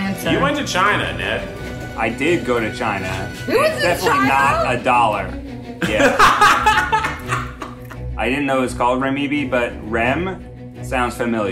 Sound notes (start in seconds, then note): 5.8 laughing